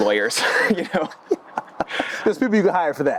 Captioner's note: laughing